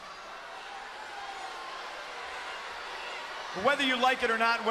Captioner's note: crowd boos